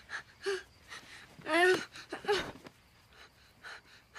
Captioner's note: moans